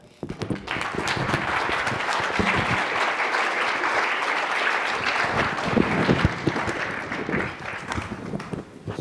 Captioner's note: applause